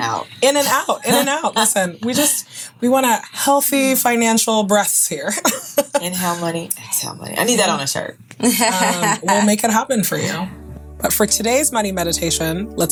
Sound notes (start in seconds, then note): 5.4 laughing; 8.4 laughing